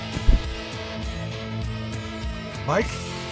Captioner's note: body thumps on ground